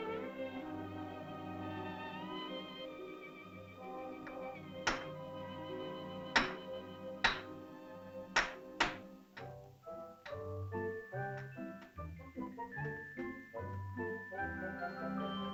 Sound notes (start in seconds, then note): 4.8 rock bangs; 9.4 whimsical music